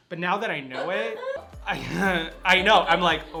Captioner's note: chuckles